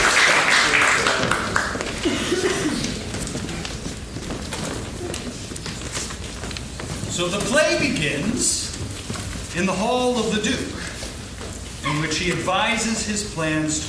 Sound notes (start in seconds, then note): 0.0 applause